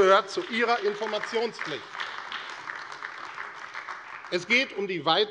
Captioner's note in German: Beifall AfD